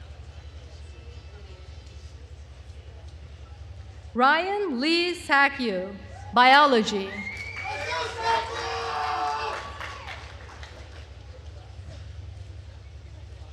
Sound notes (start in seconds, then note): 7.0 attendees cheering and applauding